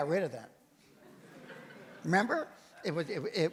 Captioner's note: audience laughs